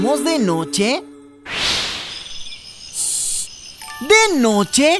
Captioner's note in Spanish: Sonido de grillos